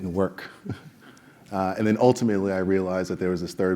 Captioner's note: laugh